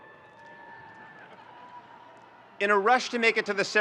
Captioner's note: audience cheering